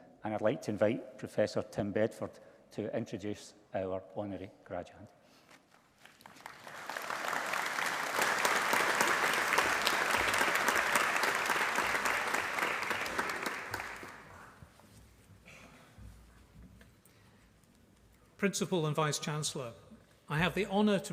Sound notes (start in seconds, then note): 6.0 applause